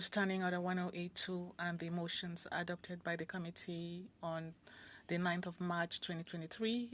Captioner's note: speaking French